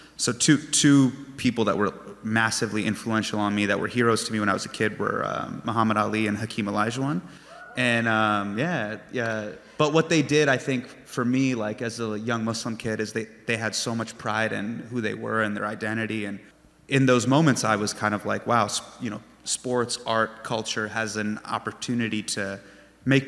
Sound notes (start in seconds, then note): 7.4 fan cheers